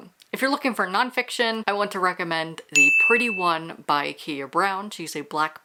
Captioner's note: ding